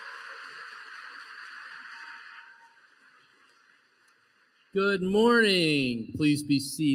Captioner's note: applause